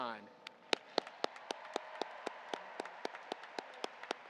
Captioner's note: audience applauding